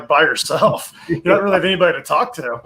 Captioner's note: laughs